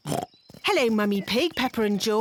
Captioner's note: oinks